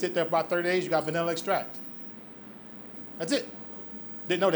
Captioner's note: none